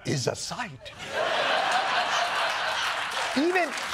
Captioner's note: laughter